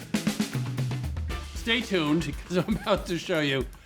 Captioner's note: chuckling